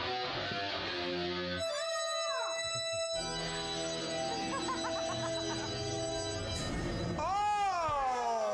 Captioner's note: heavy metal guitar; sinister organ music; jail door slamming